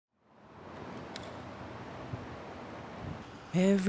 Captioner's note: wind blowing